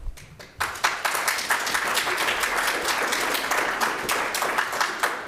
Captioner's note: audience applauds